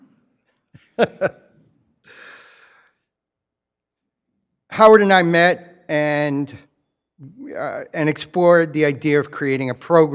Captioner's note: laughs